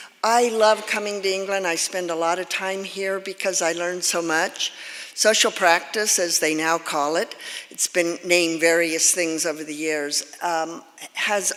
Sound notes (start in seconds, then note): none